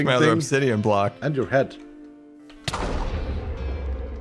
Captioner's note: explosion